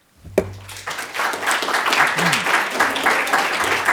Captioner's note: audience applauds